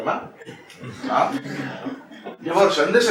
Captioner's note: laughter